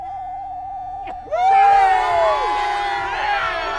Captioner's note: crowd cheers